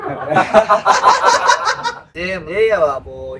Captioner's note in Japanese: 笑い声